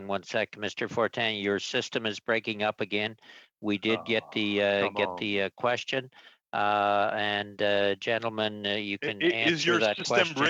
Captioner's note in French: voix de l'interprète